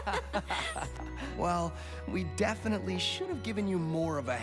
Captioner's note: both laughgh